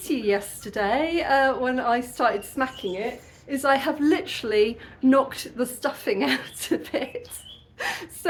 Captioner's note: laughing